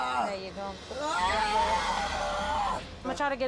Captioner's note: yelling